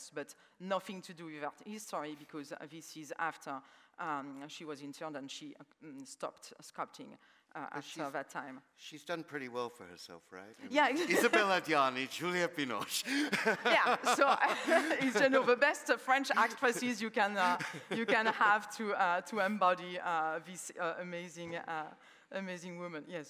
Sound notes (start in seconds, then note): 12.8 laughs